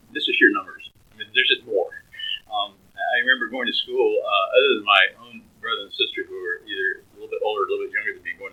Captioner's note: laughs